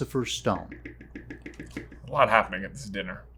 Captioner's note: tapping pen